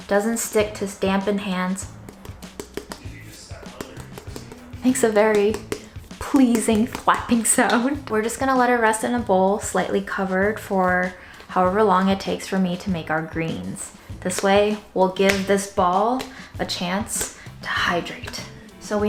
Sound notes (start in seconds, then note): 0.7 thumping sound